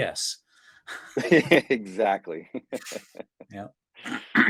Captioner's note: laughs